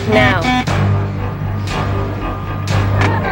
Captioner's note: beeping